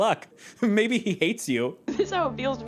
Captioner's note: laughing